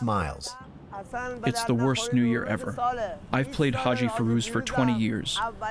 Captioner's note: through translator